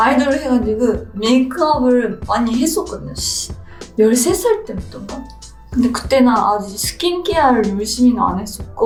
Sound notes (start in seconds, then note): 0.0 gentle music continues; 0.8 foreign language continues